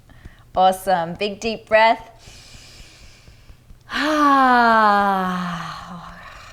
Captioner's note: inhales breath